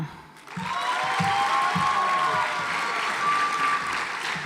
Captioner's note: audience applauds